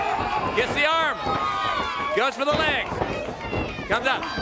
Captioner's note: crowd chatter